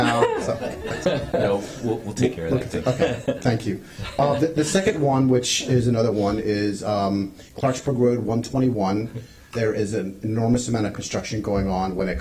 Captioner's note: laughter